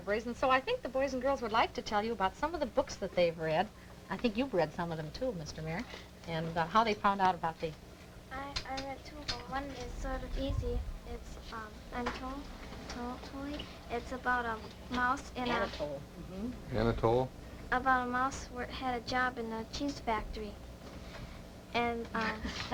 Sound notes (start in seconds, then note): 12.7 trouble pronouncing